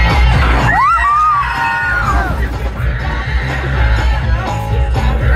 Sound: intense music; cheers and screams; upbeat music

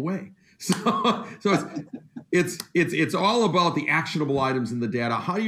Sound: laughs

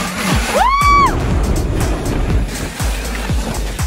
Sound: cheering

